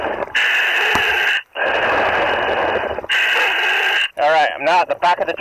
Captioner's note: breathing heavily